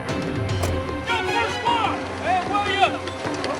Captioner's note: indistinct shouting